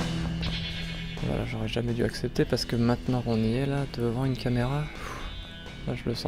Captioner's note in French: soupir